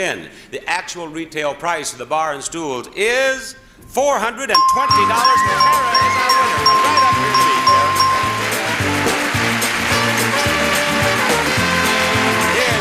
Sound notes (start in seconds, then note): 4.5 bell dings; 9.1 upbeat music